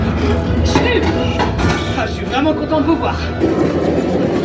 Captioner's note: dramatic music; Spiderman speaking French; guns blasting